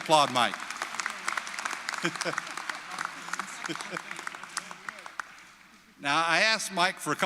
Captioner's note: applause